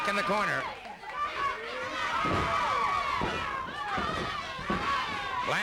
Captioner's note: crowd yelling